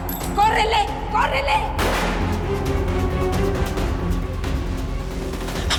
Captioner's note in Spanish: Disparo